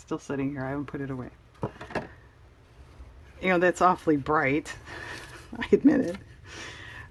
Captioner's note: laughs